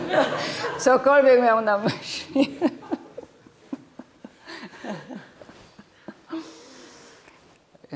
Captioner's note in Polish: śmiech